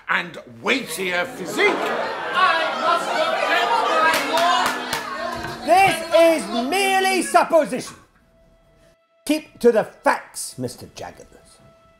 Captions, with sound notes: and weightier physique. [crowd roars] I must object my lord. [Judges gavel] This is merely supposition! Keep to the facts Mr Jaggers!